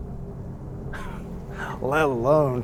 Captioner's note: Mr. Boll laughing